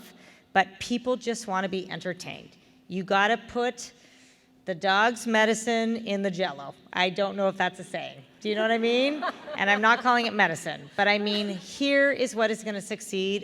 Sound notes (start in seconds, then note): 8.8 laughter